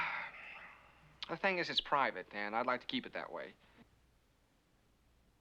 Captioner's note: sighs